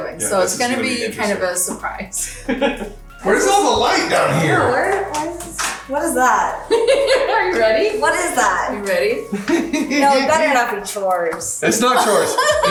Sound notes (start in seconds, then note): 6.6 laughing